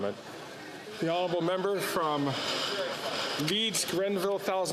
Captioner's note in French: voix de l'interprète